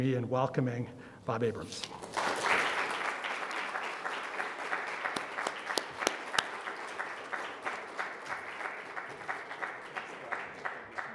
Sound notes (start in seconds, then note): 2.3 audience applauds